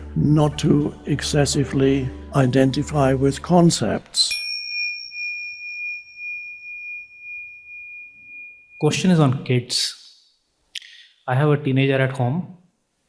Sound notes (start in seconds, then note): 4.3 bell dinging